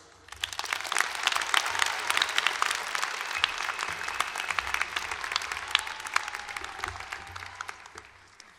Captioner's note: applause